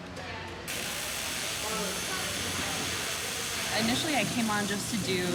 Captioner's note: electric buzzing